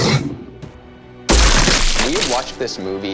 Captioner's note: alien explodes